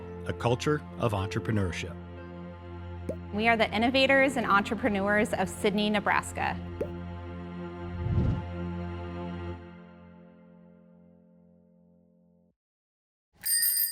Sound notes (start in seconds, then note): 7.1 screen popping; 8.0 screen swooshing